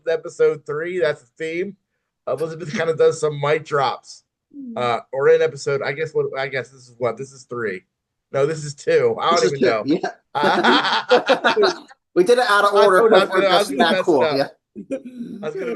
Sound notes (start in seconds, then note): 10.3 laughs